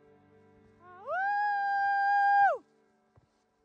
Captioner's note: is howling